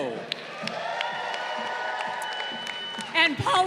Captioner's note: crowd cheering